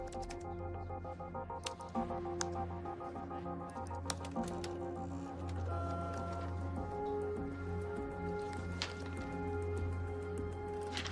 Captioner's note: typing